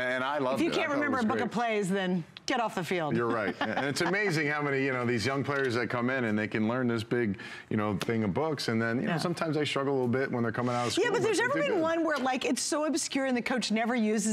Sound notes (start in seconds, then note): 3.1 laughter